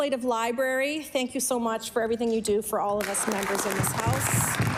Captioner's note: applause